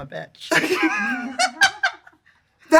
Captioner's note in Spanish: risas